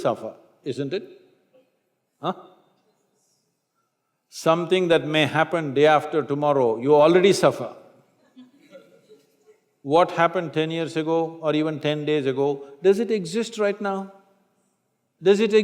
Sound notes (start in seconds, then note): 8.3 few laugh